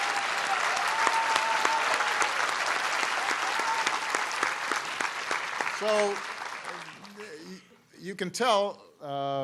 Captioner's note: applause